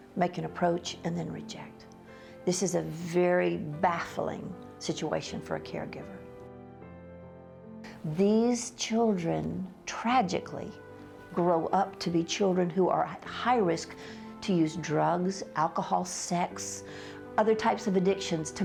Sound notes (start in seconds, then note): none